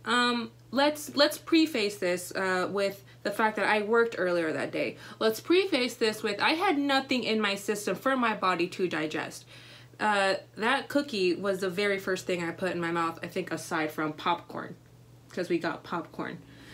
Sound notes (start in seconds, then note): none